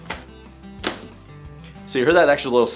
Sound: upbeat music; latch clicks

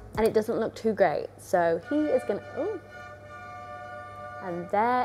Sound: car honking

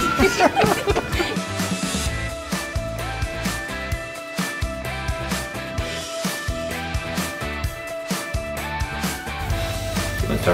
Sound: laughing

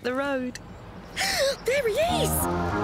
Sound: gasp

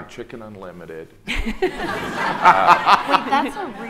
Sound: audience laughing

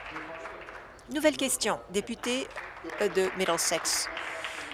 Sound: applause

